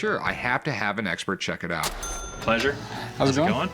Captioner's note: cash register chiming